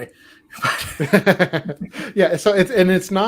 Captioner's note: laughter